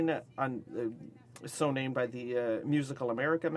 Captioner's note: speaking French